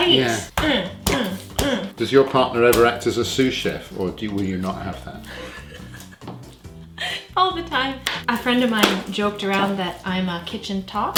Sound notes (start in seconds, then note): 1.0 grunting noises; 5.2 giggling